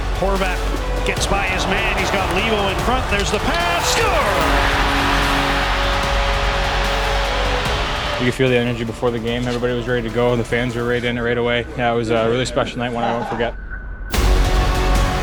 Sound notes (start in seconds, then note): 4.7 horn blows; 5.7 crowd cheers; 14.2 instrumental music